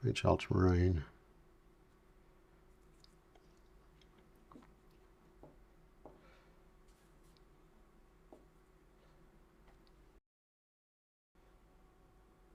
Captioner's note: silence